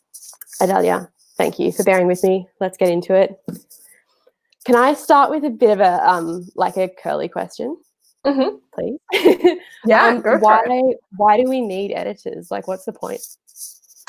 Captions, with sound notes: Adalya, thank you for bearing with me. Let's get into it. Can I start with a bit of, like a curly question? (groaning) Please. (laughing) (murmurs) Why do we need editors? Like, what's the point?